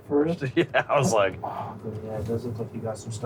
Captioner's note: laughing